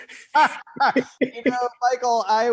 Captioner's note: laughs